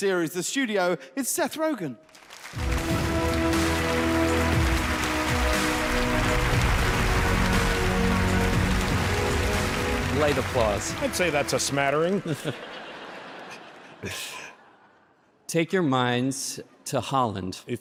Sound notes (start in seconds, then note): 2.8 dramatic music; 2.8 light applause; 12.5 audience laughs